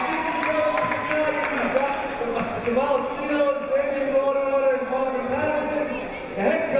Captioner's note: clapping; cheering; distorted speech